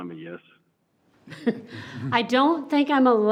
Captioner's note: chuckles